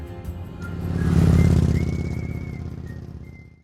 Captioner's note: vehicle engine whirring